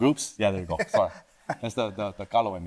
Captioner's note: laughing